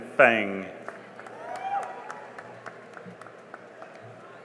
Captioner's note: cheering and applause